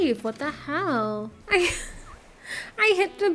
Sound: laughing

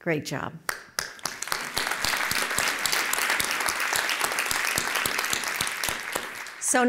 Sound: applause

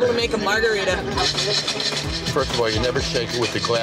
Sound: ice shaking

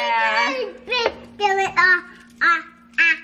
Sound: baby talk

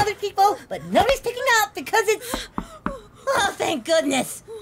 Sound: knocking at door

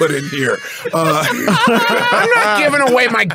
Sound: laughing

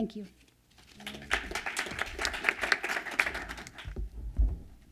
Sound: applause

